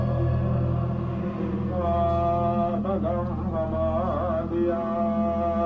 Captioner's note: people praying